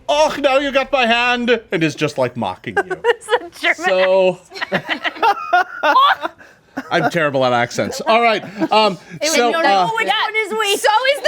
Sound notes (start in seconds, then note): 4.5 laughing; 5.6 group laughing